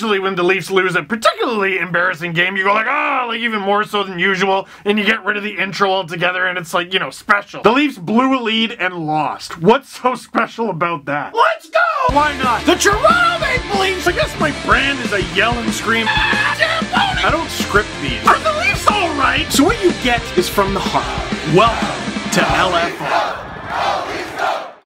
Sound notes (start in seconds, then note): 11.9 rock music plays throughout intro; 16.0 screams; 21.2 Go Leafs Go chants